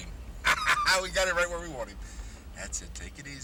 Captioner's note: laughs